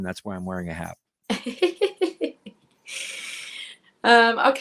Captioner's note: chuckles